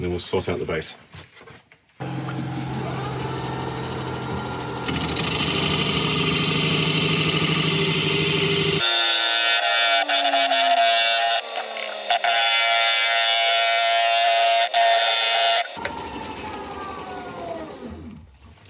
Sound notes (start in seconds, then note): 6.9 woodturning sounds